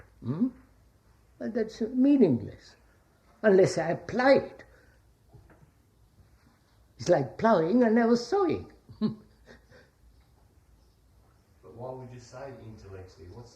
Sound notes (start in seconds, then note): 11.3 laughs